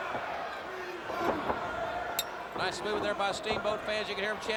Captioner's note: crowd cheering